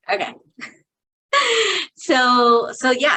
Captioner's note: chuckling